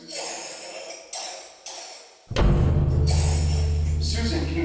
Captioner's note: Susan coughing